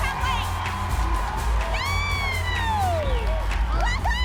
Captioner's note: cheering